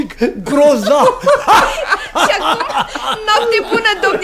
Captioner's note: laughter